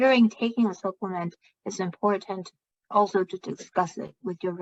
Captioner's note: speaking chinese